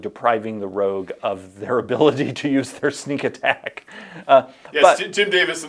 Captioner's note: chuckles